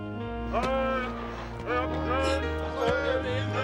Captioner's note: men shouting